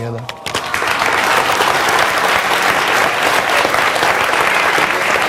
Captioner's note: audience clapping